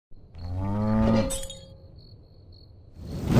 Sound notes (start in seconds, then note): 0.1 crickets chirping; 0.4 cow mooing